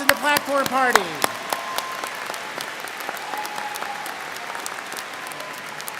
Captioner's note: students cheering and applauding